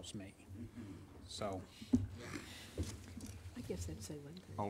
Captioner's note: speaks off microphone